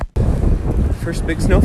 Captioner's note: wind gusting